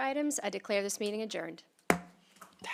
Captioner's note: gavel hitting dais